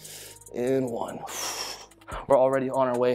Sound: exhales

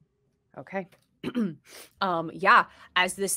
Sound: clears throat

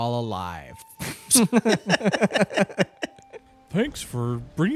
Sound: both laughing

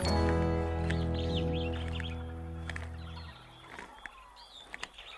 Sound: instrumental music playing; birds chirping

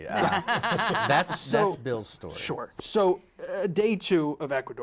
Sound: laughter

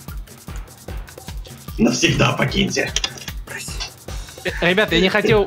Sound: in a terrible voice

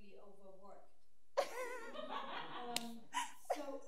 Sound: audience laughs

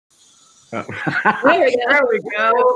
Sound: laughing

